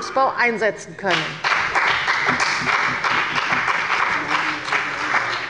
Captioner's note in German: Beifall bei der CDU und dem BÜNDNIS 90/DIE GRÜNEN